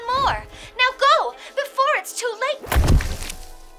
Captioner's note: Squish